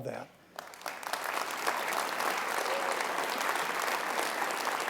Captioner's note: audience applauding